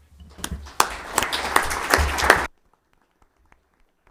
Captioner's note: audience clapping